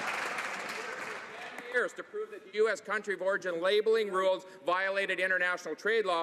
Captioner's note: some Applause